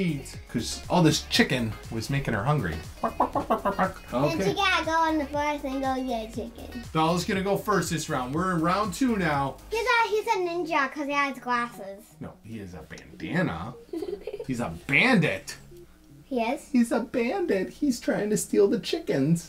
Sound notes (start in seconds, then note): 2.9 dad clucking; 13.8 Bella laughing